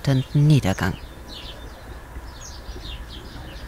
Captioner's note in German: Gezwitscher